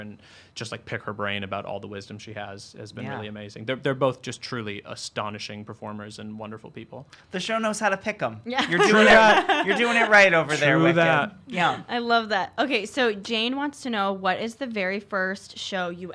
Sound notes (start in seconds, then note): 8.6 laughing